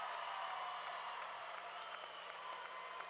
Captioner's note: applause